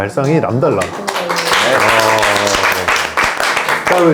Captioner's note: applause